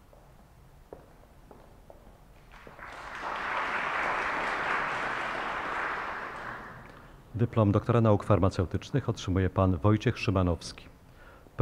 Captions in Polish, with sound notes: [oklaski] Dyplom doktora nauk farmaceutycznych otrzymuje Pan Wojciech Szymanowski.